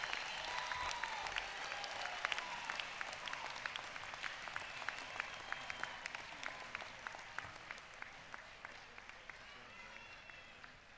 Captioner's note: applause